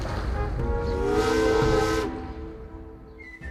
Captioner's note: steam whistle